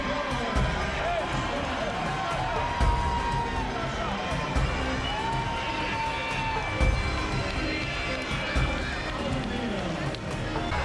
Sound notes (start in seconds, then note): 5.1 crowd is yelling woooo!